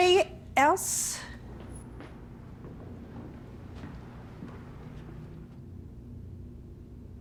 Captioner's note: footsteps pattering; bells faintly ringing